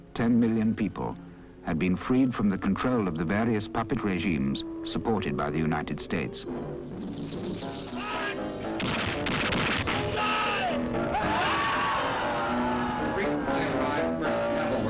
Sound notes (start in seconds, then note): 8.4 yelling; 8.7 gunshots; 11.0 screaming